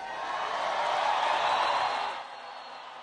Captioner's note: cheering and applause